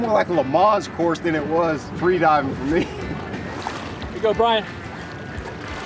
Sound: laughs

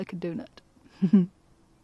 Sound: giggles

